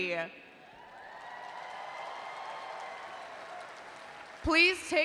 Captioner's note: attendees cheering